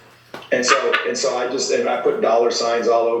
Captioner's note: laughs